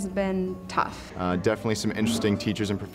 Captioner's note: voiceover